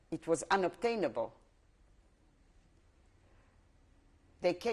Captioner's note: pauses for 3 seconds